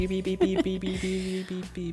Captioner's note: chuckles